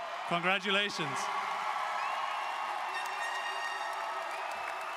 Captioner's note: audience cheers